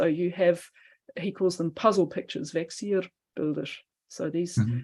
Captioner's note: non-english